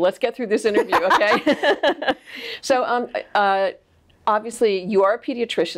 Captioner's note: laughs